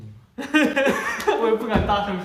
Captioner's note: hahaha